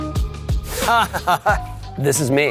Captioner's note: laughing